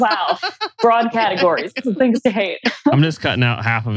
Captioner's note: laughs